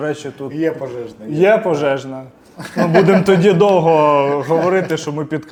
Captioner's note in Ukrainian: сміх